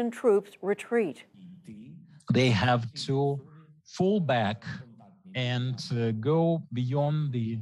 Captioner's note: through translator